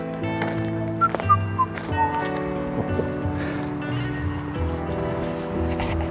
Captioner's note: whistles, dissimulating